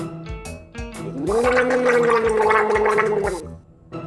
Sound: gargling

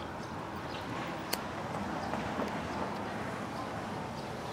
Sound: lighter clicks

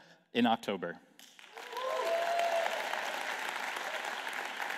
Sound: applause

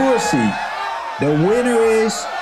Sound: people cheering

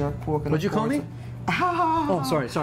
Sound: laughs

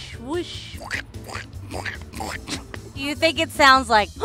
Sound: mouth squishing

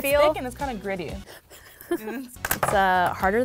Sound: laughs

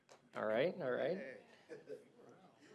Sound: laughter

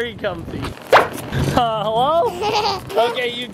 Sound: pop sound effect

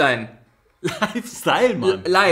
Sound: laughs

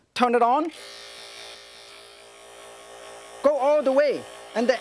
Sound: electric knife sharpener whirs

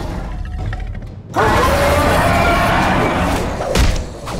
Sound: roaring

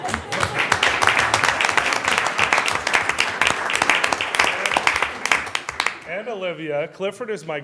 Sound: applause

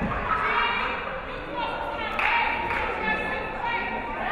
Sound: players shouting

